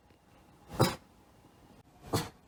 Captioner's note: ruff